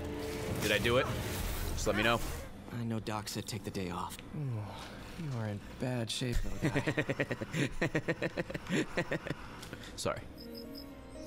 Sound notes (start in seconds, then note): 9.2 laughs